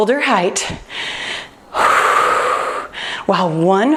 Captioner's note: breathing deeply